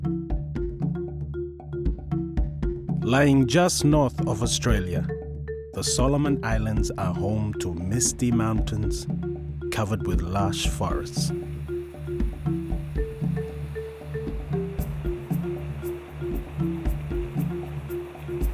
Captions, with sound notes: Laying just North of Australia, the Solomon Islands are home to misty mountains, covered with lush forests. (leaves rustling) (upbeat music)